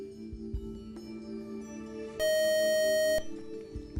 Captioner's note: buzzer